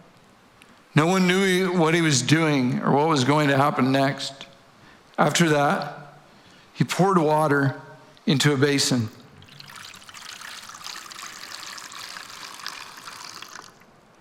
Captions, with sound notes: No one knew what He was doing or what was going to happen next. After that, He poured water into a basin (water trickling)